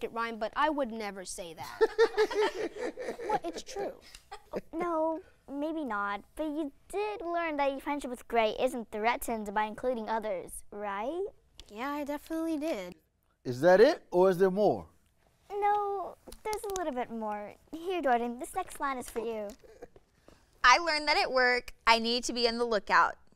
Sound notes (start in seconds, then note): 1.6 laughter